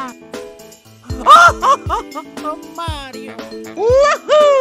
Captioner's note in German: Gelächter